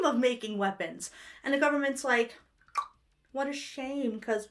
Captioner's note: tongue clicks